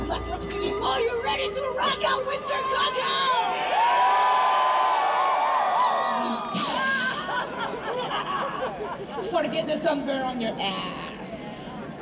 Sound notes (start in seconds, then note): 1.8 crowd cheering; 6.2 laughing